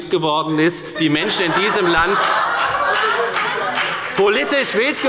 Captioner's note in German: Heiterkeit und Beifall bei der FDP und der SPD